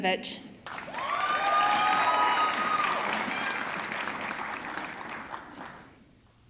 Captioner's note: audience clapping; audience cheering